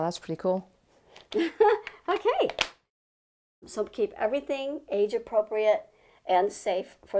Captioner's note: chuckle